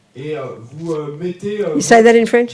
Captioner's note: French